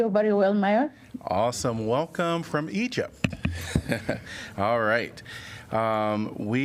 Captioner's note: laughter